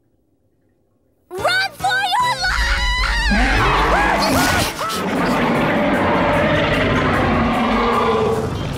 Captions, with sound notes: Run for your lives! [roaring]